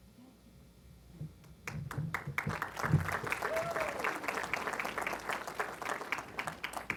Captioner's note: applause